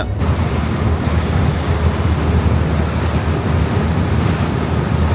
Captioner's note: motor rumbling